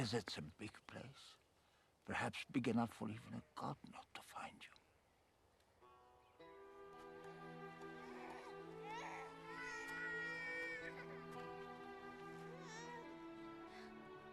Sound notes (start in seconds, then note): 10.5 baby crying